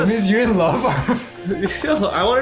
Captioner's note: laughing